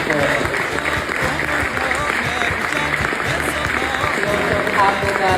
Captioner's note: attendees clapping